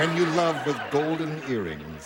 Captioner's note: laughters